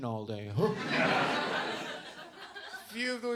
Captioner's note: audience laughs